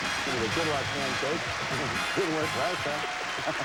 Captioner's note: audience applauding